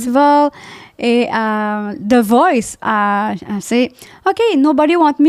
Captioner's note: in french